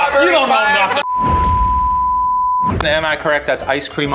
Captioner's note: tone beeping